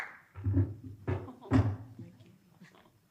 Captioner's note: audience applauding; foot stool clattering